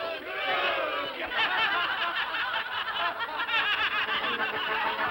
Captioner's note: all laugh; whimsical music